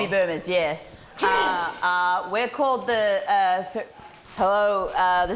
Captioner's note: grunts